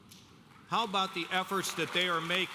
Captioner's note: audience applauding